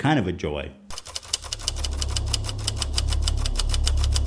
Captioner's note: intese typing sound effect